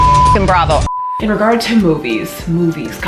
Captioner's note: beep